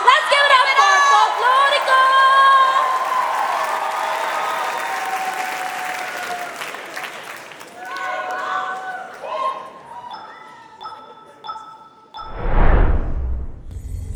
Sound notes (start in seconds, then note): 2.8 applause; 2.8 cheering; 6.4 applause